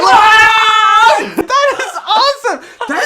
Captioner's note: screaming in delight